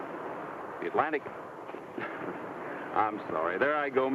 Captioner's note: laughs